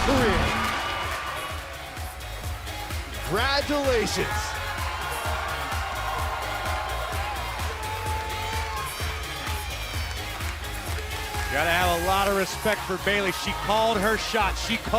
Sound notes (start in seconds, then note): 5.6 cheers & applause